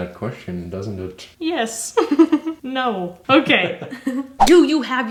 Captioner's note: laughing